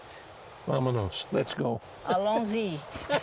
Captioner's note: non-english speech